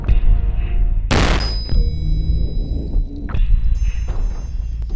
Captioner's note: gunfire pops